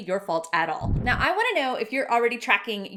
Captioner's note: swishing